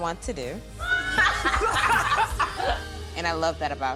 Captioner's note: both laughing